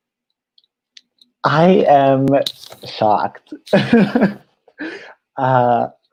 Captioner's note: laughs